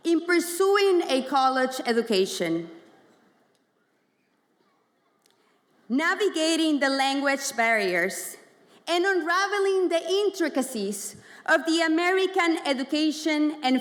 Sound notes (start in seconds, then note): none